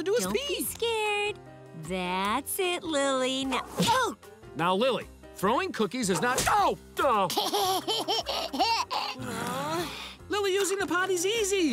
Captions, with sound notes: Don't be scared. That's it, Lily. Now... oh! Now Lily, throwing cookies is not... oh! [laughing] [sighing] Lily, using the potty's easy.